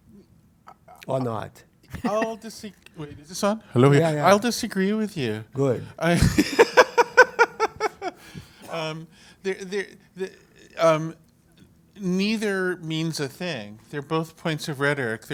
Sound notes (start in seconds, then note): 6.1 laugh